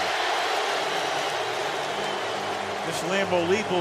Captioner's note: cheering